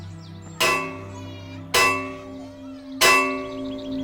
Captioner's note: gong clanging